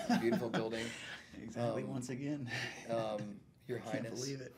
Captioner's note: laughs